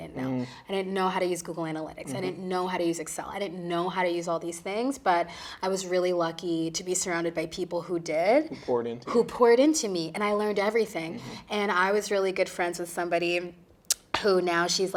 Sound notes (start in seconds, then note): none